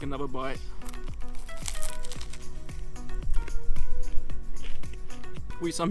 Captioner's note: crunches crunchily